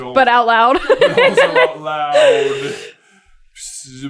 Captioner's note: laughter